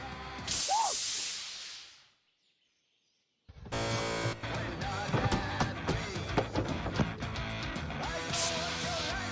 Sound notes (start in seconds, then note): 3.4 buzzer